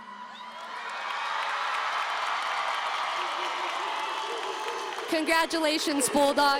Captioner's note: applause and cheering